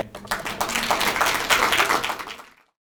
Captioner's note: applauding